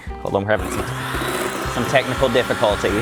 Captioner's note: mixer turns on